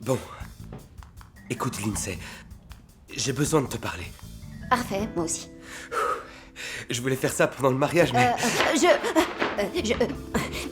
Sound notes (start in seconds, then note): 5.7 Duncan exhales